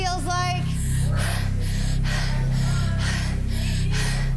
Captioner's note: wheezes